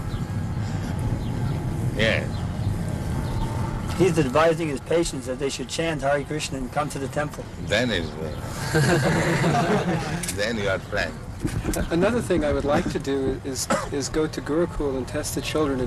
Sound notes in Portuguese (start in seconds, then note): 8.5 risadas